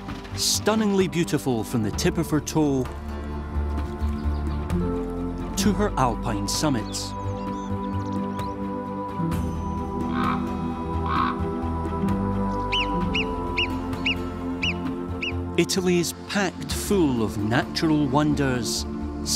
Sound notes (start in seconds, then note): 10.1 ibex grunting; 12.6 squeaky calls